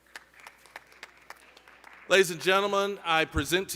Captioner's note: scattered applause